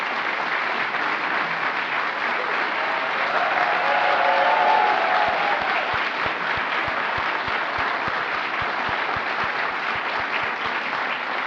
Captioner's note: applause